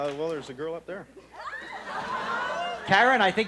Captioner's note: audience laughs